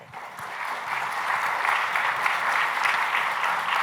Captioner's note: applause